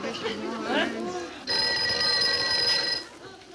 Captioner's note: phone rings